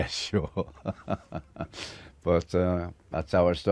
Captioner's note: laughter